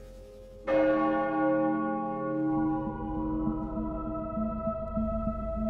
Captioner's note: bell tolls